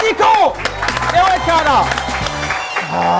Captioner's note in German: Jubel, Applaus